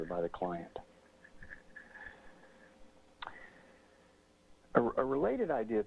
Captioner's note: pause